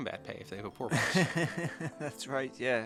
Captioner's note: laughs